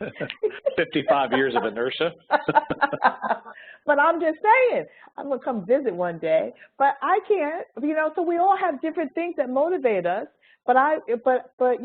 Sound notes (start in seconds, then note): 0.0 laughs